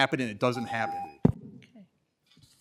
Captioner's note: timer tone